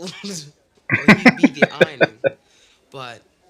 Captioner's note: laughing